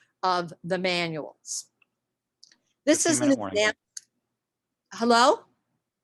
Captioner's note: murmurs